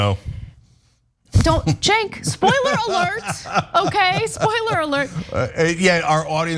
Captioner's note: laugh